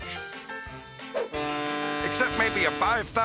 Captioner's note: ship horn blasting